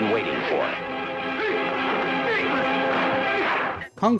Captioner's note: fighters exclaiming